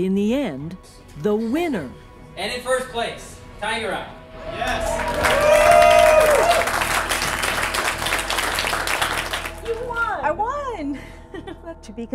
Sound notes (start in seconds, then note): 4.4 cheers and applause